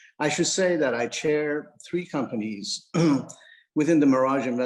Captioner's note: clears throat